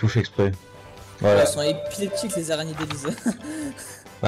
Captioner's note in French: rire